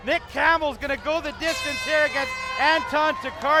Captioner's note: horn blasts